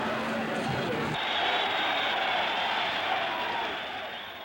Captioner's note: crowd cheering